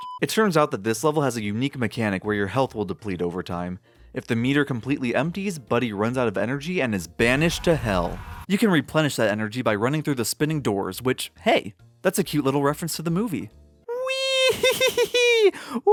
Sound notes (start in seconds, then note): 0.0 flatlining beep; 7.2 Buddy yelling